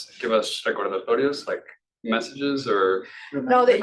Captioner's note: speaking Spanish